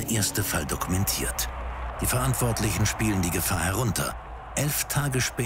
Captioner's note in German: jubeln